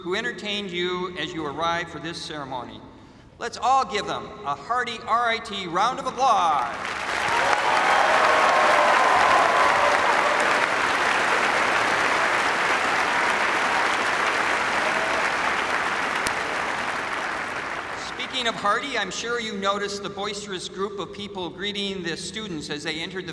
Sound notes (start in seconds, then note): 8.3 cheers and applause